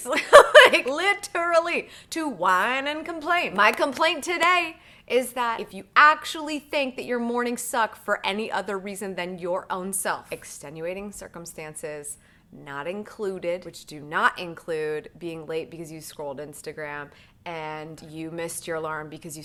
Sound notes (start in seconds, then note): 0.1 laughing; 3.6 clapping